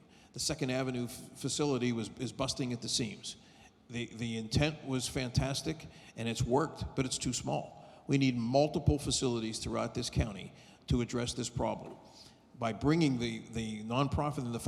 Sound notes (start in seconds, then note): none